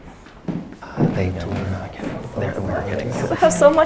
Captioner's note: chatter